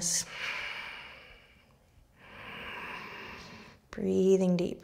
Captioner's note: slow breathing